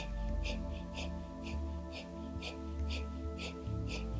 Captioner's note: breathing loudly